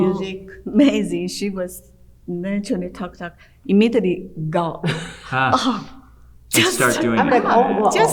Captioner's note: laugh